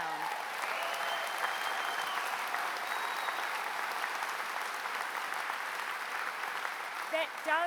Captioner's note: applause